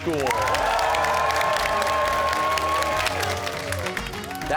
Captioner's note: cheers and applause